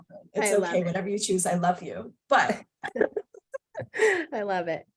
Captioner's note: laughter